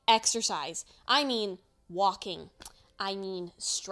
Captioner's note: tongue click